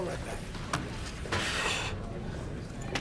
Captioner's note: exhales sharply